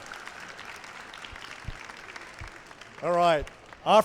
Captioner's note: applause